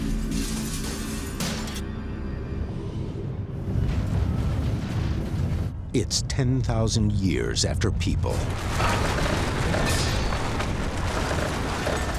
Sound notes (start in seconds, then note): 2.4 glass shatters